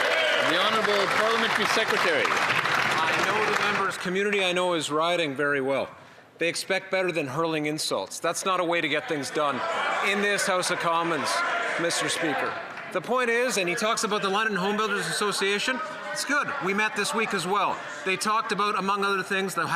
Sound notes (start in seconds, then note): 4.2 some Applause